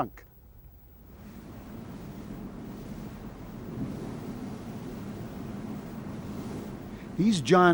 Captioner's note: waves crash